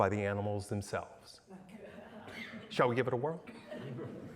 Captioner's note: laughter